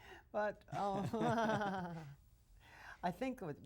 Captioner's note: laughs